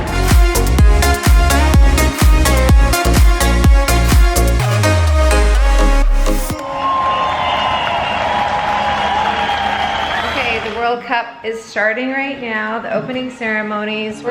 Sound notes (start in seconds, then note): 0.0 cheerful techno music; 6.5 crowd cheering